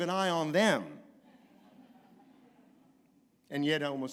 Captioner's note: laughter